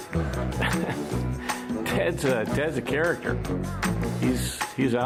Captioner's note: laughs